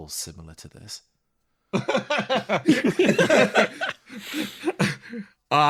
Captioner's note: laugh